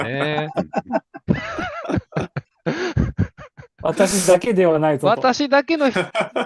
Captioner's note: laughter